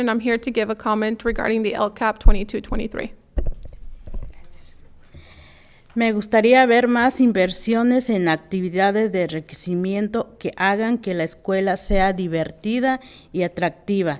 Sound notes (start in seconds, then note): 6.2 speaking in foreign language